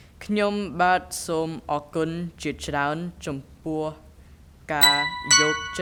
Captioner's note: speaking in a foreign language